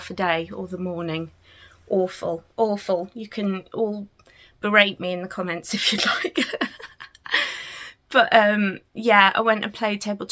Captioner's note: laughs